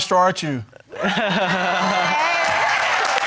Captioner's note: unamused laughter; audience cheering